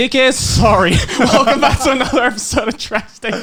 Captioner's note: laughing